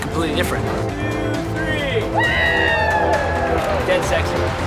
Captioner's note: voiceover; all cheering